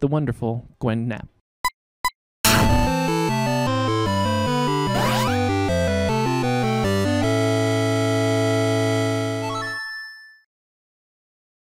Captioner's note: beeping